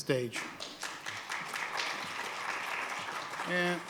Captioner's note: applause